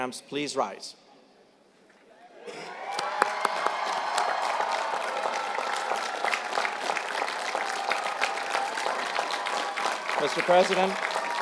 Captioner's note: applause